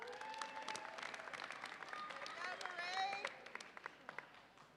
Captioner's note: audience applauds and cheers